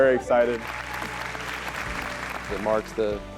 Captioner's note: applause